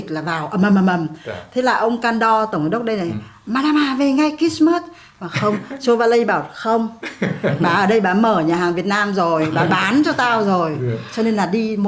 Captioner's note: laugh